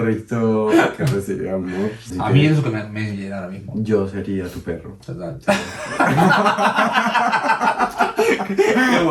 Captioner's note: laughs